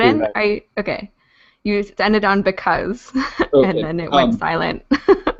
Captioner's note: laughs